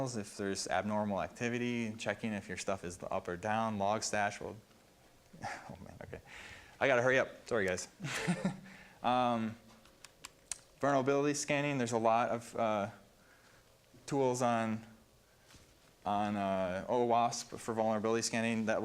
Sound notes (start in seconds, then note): 8.0 laughs